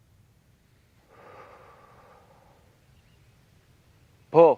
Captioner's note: exhales sharply